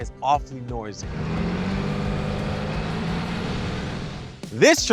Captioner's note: engine revs